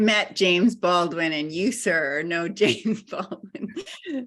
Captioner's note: laughing